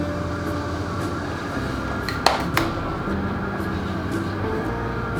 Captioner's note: clap clap clap